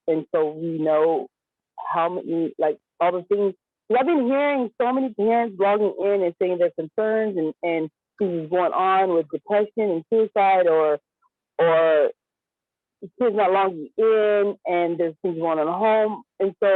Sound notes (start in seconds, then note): none